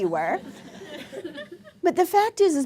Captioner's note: laughter